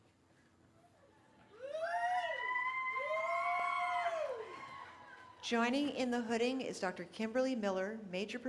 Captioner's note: cheering